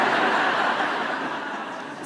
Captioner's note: laughter